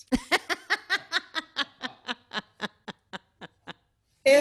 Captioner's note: laughter